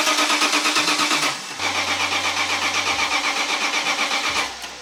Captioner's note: car Not starting